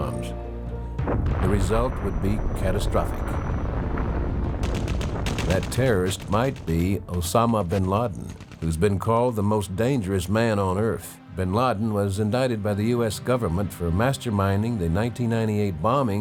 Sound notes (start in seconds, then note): 2.7 bomb exploding; 6.9 gun firing